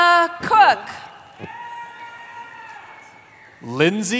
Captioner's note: cheering